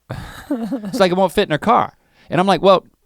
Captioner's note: Rhett chuckles